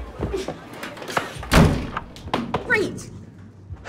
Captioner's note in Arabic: إغلاق الباب